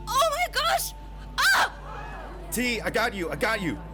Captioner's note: audience exclaims